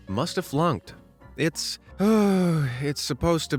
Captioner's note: sighs